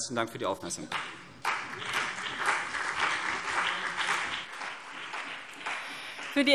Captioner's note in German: Beifall CDU und BÜNDNIS 90/DIE GRÜNEN